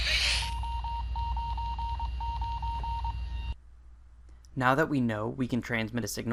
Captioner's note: FM radio noise, cw.wav Morse code